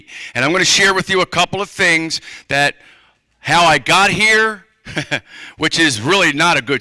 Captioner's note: laughter